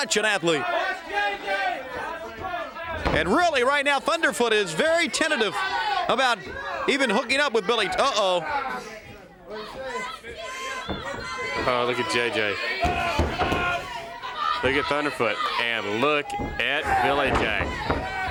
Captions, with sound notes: HE IS SUCH AN ATHLETE. >> [CROWD CHATTER] >> AND REALLY RIGHT NOW THUNDERFOOT IS VERY TENTATIVE ABOUT, EVEN HOOKING UP WITH BILLY--UH-OH. >> OH, LOOK AT J.J. LOOK AT THUNDERFOOT AND LOOK AT BILLY JACK.